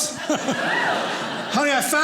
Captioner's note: audience laughing